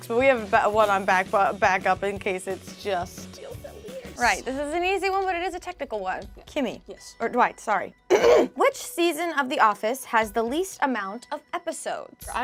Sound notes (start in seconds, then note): 8.1 clears throat